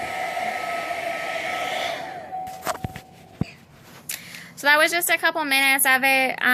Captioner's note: hair dryer turns off